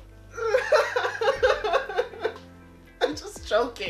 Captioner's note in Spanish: risas